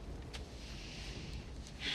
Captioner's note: exhales sharply; inhales deeply